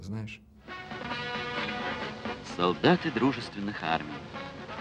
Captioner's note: narration in Russian